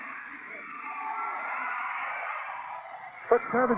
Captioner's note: audience cheering